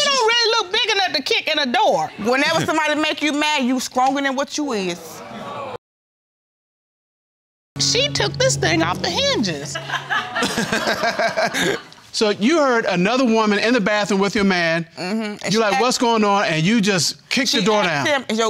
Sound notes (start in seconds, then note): 5.2 audience exclaiming; 9.7 laughter